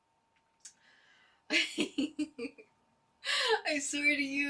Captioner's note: laughter and giggles